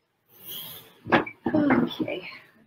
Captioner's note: chair creaks